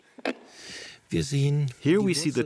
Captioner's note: man speaking German